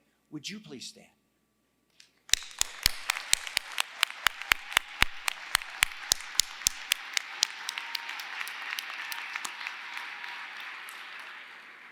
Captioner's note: applause